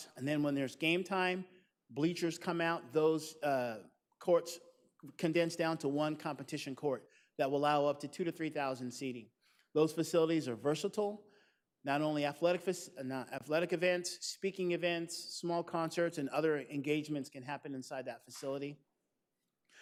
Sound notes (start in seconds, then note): none